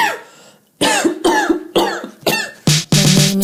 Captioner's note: coughing